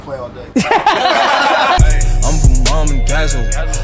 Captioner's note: group laughter